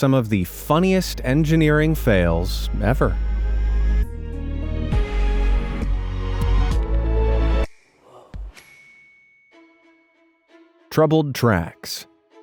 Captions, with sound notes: some of the funniest engineering fails ever. (suspenseful upbeat music) (mascot gasps) (bell dings) Troubled tracks.